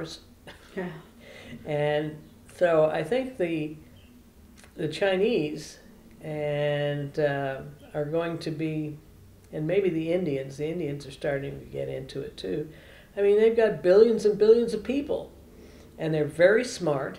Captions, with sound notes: (Laughs) I think the Chinese are going to be and maybe the Indians, the Indians are starting to get into it, too. They have got billions and billions of people and they are very smart.